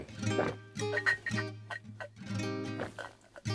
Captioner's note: gulps